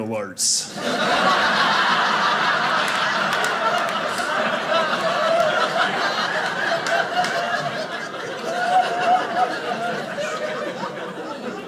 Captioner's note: audience laughing